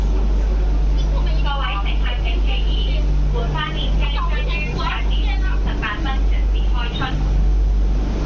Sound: Cantonese

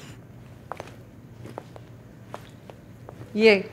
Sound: footsteps

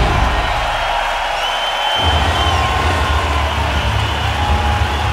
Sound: audience cheering

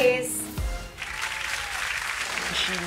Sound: audience claps

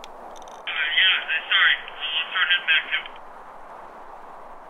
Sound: two-way radio

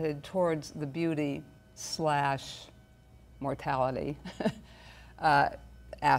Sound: chuckles

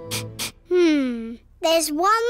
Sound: sniffs

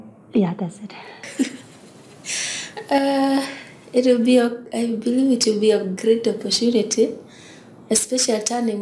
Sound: laughs

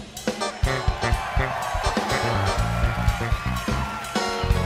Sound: applause

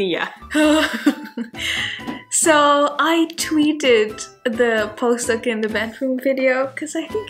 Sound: laughing

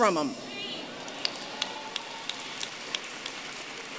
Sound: applause

